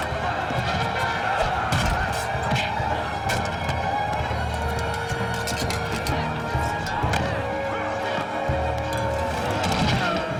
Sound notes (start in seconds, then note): 2.6 punch; 7.8 thud